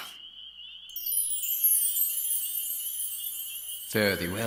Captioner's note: chimes ring